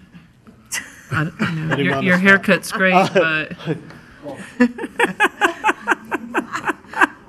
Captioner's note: laughing